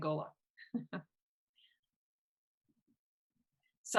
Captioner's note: chuckles